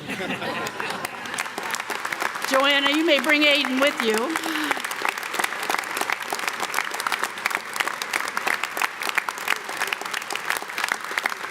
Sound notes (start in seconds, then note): 0.0 audience laughs; 5.5 audience clapping